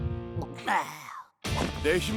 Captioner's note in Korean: 한숨 소리